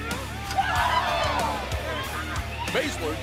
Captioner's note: crowd chatter